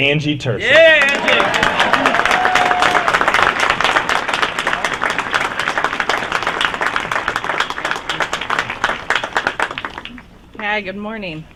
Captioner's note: applause